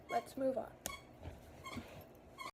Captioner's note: squeaking